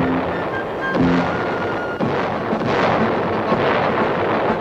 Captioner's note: cannons firing